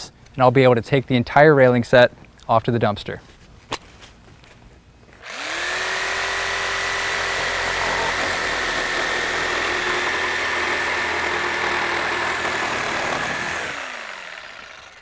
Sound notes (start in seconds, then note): 3.4 saw buzzing, no additional audio